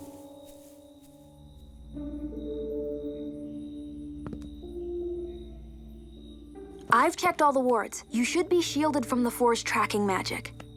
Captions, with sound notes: [footsteps] [suspense music] I’ve checked all the wards. You should be shielded from The Four’s tracking magic.